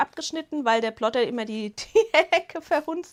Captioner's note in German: Gelächter